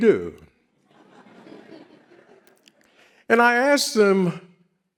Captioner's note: audience laughs